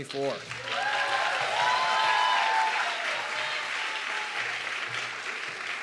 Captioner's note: audience clapping and cheering